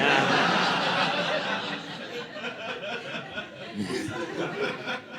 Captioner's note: audience laughing